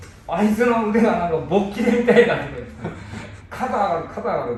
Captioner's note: laughter